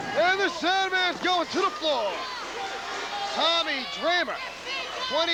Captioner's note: crowd cheering